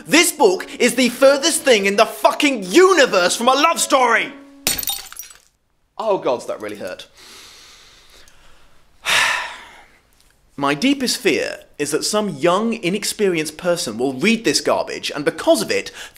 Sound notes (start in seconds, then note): 4.6 glass smashes; 7.2 loud inhale and sigh